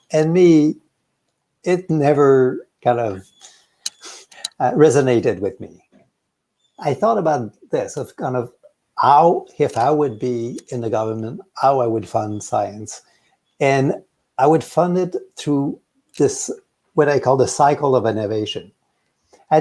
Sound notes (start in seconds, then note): none